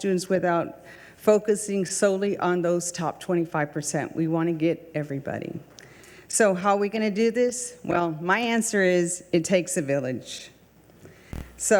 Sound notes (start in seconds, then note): none